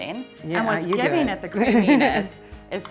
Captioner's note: laughs